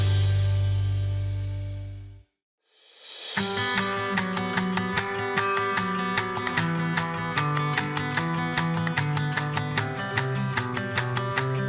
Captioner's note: Plojimai